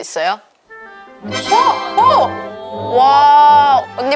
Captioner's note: ta-da